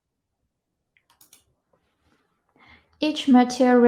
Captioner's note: mouse clicking